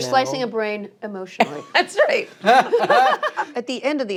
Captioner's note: laughter